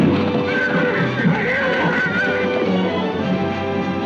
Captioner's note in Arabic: أصوات البنادق; صهيل الحصان; موسيقى مثيرة